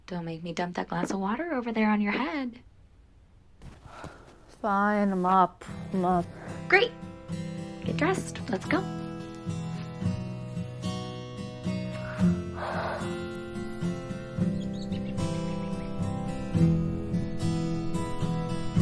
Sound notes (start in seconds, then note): 11.9 Julie sighs; 14.7 birds chirping